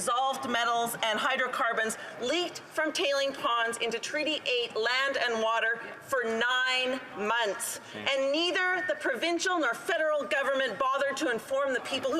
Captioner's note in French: voix de l'interprète